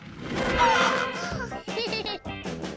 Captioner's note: laughing